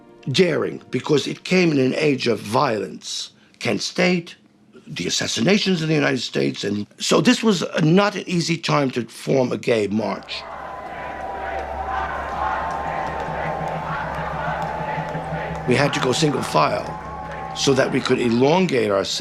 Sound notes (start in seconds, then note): 10.2 crowd chanting; 12.9 rhythmic clapping